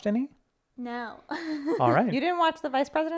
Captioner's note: laughs